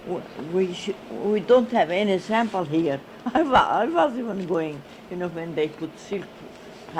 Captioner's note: she laughs